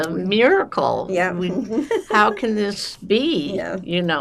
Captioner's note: laughing